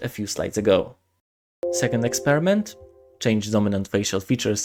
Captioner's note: Sorry for the Windows sound